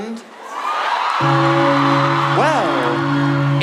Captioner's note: church bell